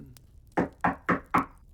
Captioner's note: knock on door